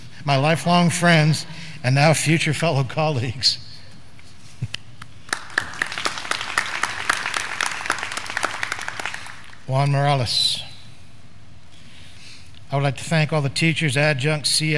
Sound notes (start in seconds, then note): 5.2 graduands clapping